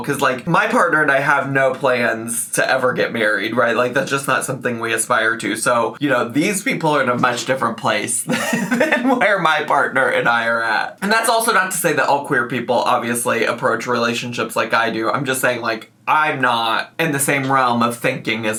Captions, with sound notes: 'Cause, like, my partner and I have no plans to ever get married, right? Like that's just not something we aspire to. So, you know, these people are in a much different place than (laughing) where my partner and I are at. And that's also not to say that all people obviously approach relationships like I do. I'm just saying like, I'm not in the same realm of thinking